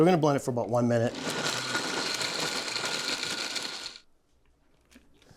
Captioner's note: blender whirring